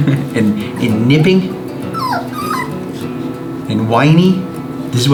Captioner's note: giggles whining